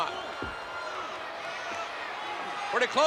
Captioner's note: spectators cheering